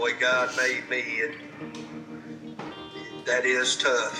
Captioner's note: sniffling